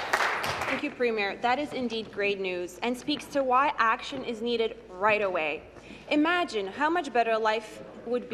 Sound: applause

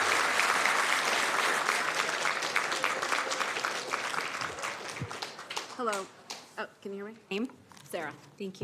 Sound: cheers and applause

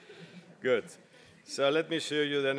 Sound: laugh

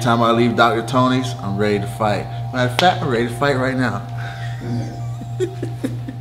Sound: chuckles

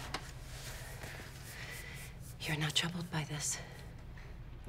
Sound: none

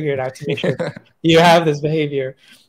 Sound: laughs

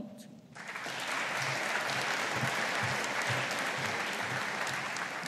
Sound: audience applauding

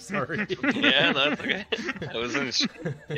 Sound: shared laughter

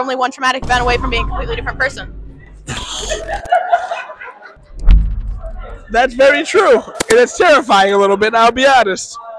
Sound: laughter

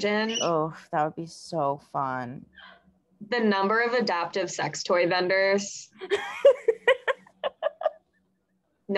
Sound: laughs

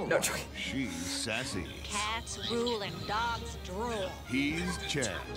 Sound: laughs; sassy

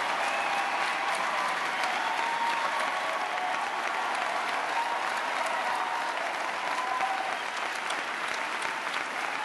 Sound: applause

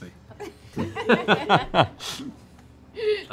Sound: laughing

